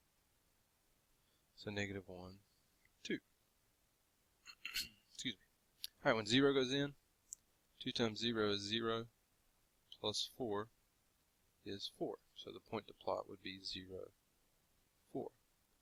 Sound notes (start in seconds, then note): 4.5 clears throat